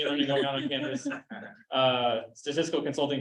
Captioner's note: chuckling